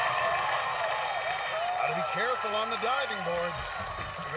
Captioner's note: cheers and applause